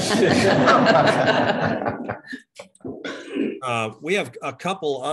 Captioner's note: chuckling